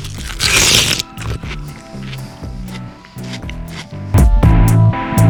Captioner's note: wet chewing